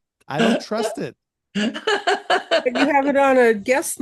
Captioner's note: laughs